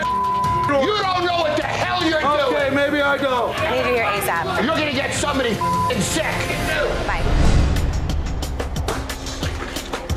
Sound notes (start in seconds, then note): 0.0 beep; 5.6 beeping